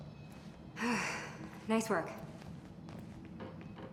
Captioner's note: sighs